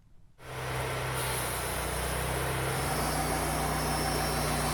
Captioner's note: machinery rumbles